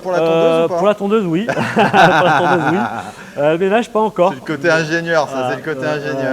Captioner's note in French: rires